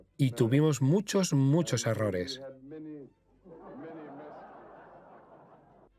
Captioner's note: audience laughs